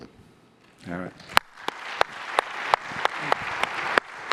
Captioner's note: applause